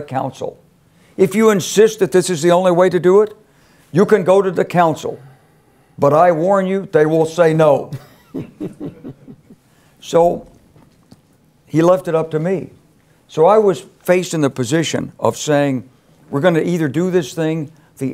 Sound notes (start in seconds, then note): 8.0 laugh